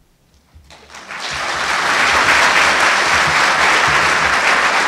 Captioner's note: audience applauding